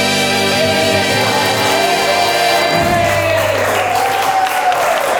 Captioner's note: audience cheering